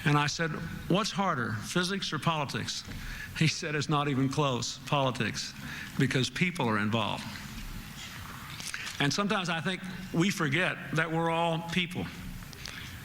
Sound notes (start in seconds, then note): none